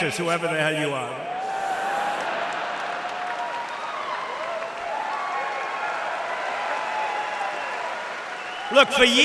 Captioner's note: applause